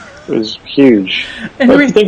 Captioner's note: laughs